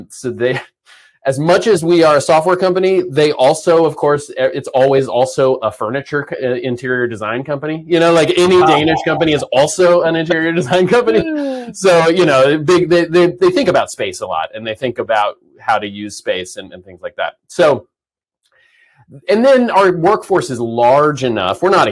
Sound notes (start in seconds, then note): 0.7 chuckles; 11.0 laughs